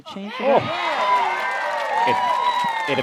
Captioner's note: cheers